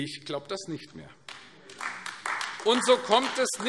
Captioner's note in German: Beifall AfD